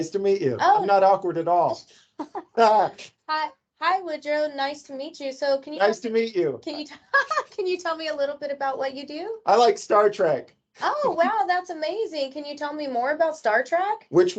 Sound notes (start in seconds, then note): 2.2 both laugh; 6.9 laughs